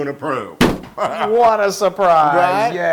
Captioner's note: laugh